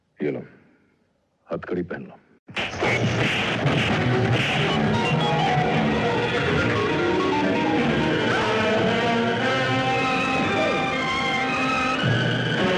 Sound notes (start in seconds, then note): 2.6 fighting Sound